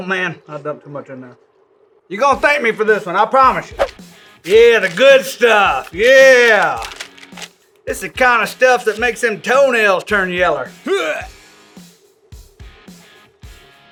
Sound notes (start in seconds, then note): 10.8 gagging